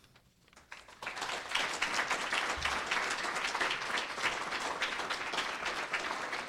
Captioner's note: applause